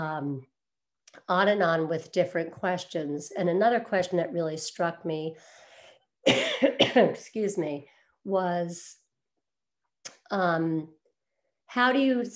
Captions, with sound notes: On and on with different questions. And another question that really struck me, (coughs) excuse me, was "How do you stop your kids